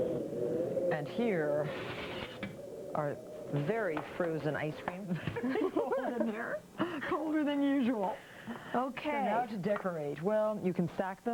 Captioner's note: laughter